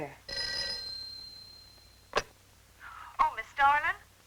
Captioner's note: phone ringing